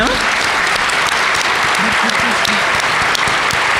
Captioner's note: applause